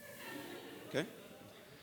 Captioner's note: laughter